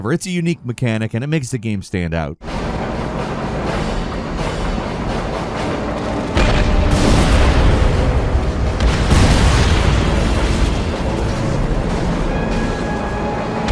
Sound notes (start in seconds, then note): 2.6 robust music; 6.4 canon fires